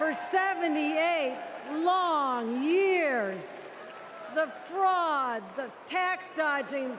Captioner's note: cheers